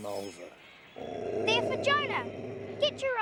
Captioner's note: Patch growling